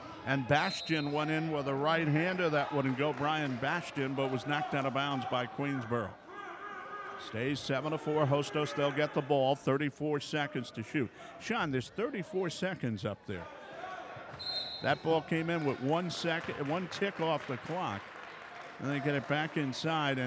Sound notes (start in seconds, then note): 6.3 yelling; 14.4 whistle blows; 17.9 clapping